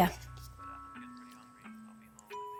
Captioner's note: on phone